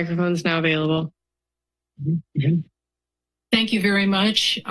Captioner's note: silence